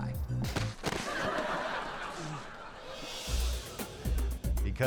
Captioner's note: audience laughing